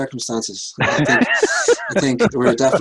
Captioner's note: laughter